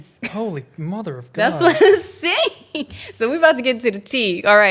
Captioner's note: laughs